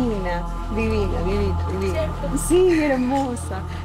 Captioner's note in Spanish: Ríe